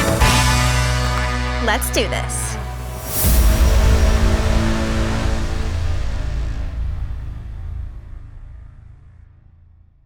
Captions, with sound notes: (knuckles crack) Let's do this.